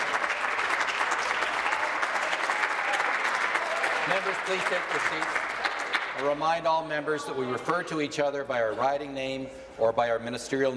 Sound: applause

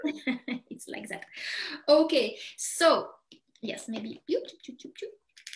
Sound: chuckles

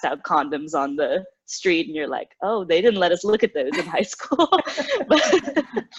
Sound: laughter

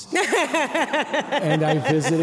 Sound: laughing

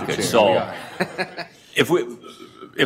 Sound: audience laughter

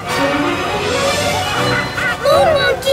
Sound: chattering

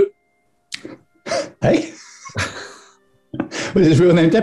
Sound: chuckling

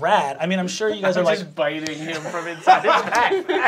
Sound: laughter

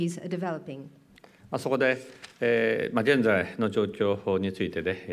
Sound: speaking japanese

